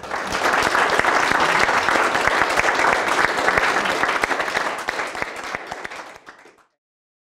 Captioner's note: applause